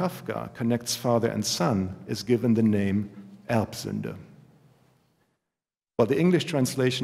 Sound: german

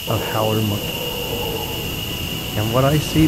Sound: monkey howling

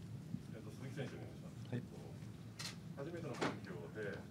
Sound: speaking Japanese

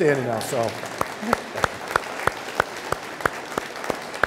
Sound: audience applauding

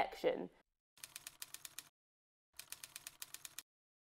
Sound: typing

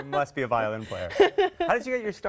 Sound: laughter

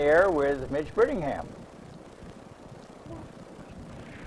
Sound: phone open line sound

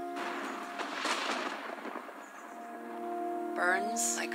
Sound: sound of thunder

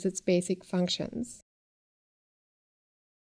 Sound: pause

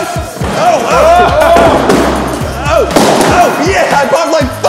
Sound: pop! pop!

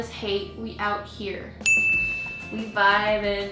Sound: bell dings

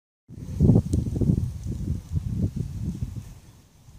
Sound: wind and fire crackling

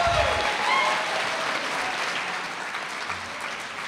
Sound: audience cheering

